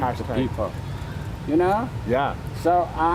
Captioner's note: translator speaks in foreign language